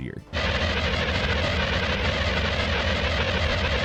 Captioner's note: wand blasting